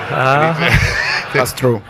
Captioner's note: audience laughs